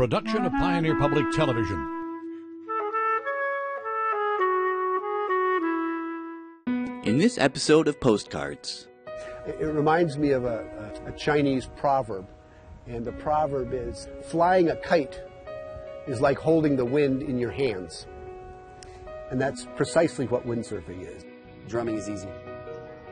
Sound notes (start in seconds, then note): 3.6 calm flute music; 6.9 voiceover